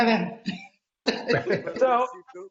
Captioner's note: laughing